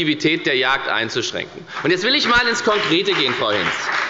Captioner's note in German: Beifall bei der FDP